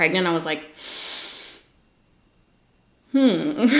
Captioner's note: inhales sharply